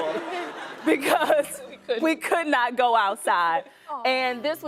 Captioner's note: chuckles